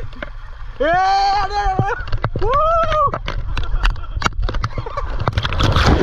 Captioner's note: screaming